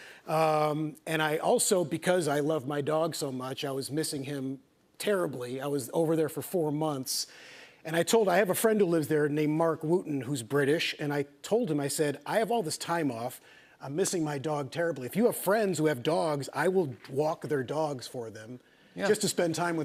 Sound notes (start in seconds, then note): none